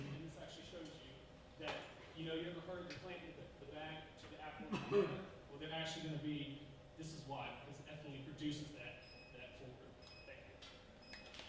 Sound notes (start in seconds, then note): 4.6 cough drowns out speaker